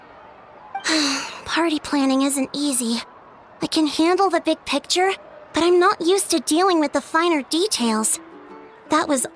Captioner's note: sigh